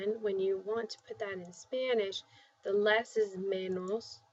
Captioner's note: spanish